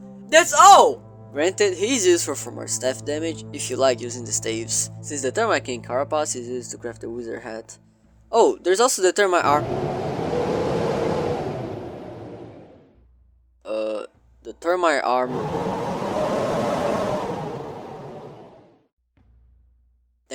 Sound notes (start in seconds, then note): 9.4 wind sounds; 15.2 slightly stronger wind sounds